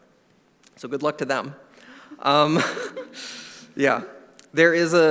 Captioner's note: laughs